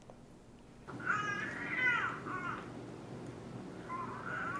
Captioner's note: baby cooing